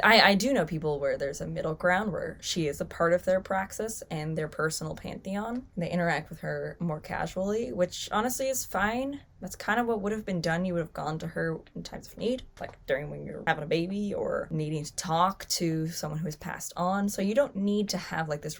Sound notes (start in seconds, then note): none